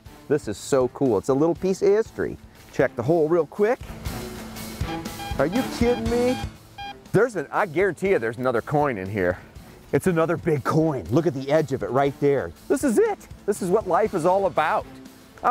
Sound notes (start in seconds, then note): 4.8 beeping